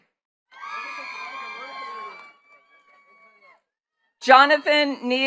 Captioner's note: attendees cheering and clapping